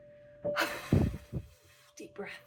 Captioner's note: exhale